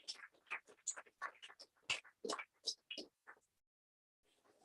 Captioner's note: applause